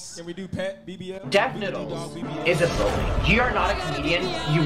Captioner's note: voice on sound system